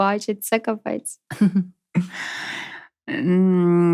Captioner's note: laughter